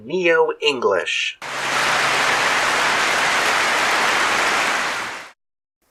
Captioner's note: clapping